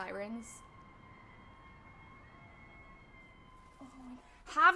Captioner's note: sirens